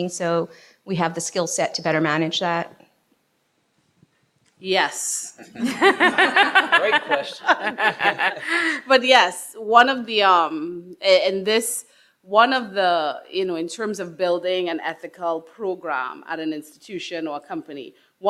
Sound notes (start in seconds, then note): 5.4 attendees laughing